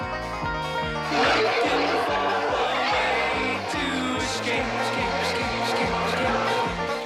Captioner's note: Jack screaming; dinosaurs roaring